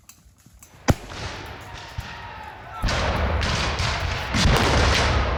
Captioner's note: gunshots firing; men yelling